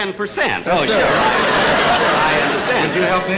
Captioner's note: audience Laughing